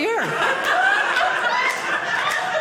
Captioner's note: audience laughing